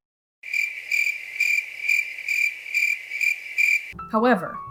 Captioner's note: crickets chirping